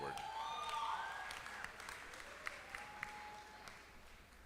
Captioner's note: applause